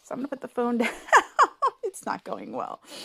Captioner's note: laughing